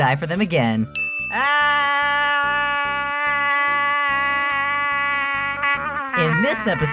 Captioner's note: screaming